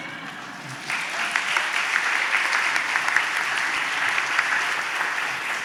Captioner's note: laughter; applause